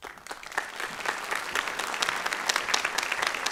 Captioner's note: applause